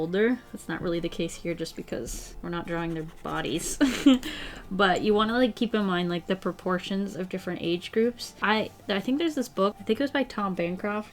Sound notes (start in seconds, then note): 3.7 laughs